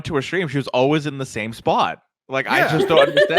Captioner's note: laughing